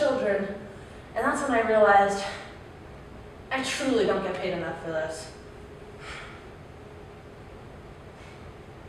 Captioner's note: sigh